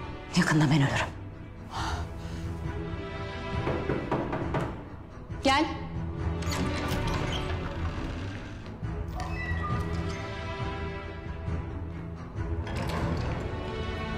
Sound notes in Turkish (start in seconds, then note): 6.3 Kapı Açılma Sesi; 9.6 Kapı Kapanma Sesi